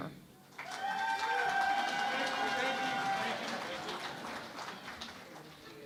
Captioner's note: cheering and Applause